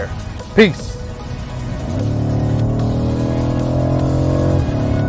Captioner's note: car engine revving